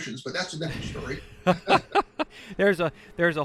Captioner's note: laughs